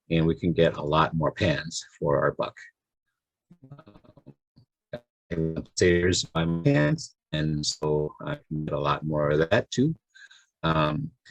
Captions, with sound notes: and we can get a lot more pants for our buck. (voice distorted), and so I can get a lot more of that too.